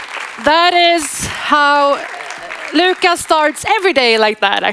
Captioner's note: audience applauding